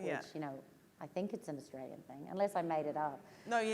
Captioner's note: none